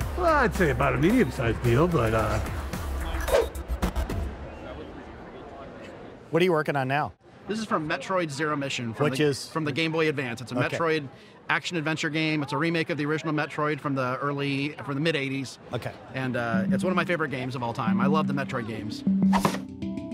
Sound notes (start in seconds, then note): 3.3 air whooshes; 4.9 attendees chattering; 19.1 air whooshing; 19.3 board thwacks